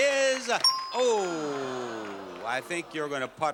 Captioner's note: audience sighs